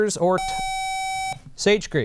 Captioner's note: buzzer